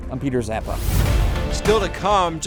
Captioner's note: dramatic music; logo whooshes